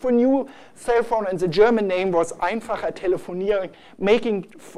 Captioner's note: german